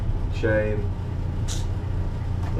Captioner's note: clicks teeth